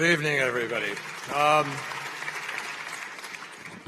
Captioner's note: applause